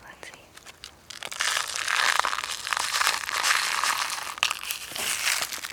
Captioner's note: candy clattering